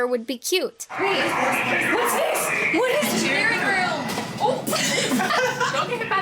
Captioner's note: grunts